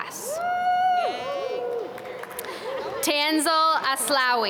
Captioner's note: applause